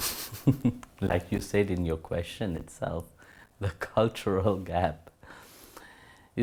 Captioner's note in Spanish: risas